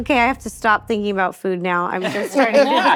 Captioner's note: both laughing